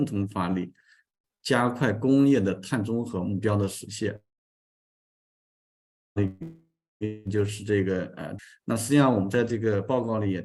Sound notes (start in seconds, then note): 3.8 continues to speak in Chinese